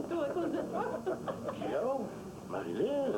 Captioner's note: rires